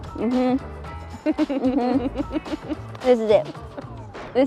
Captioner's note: Claire laughs